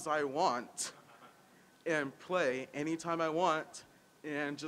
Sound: audience laughing

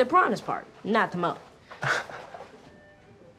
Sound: chuckles

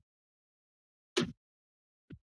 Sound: thud

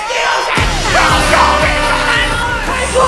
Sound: foghorn

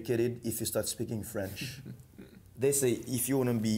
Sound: man laughs

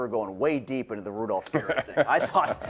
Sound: laughing

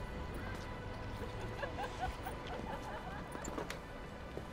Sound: nearby laughter

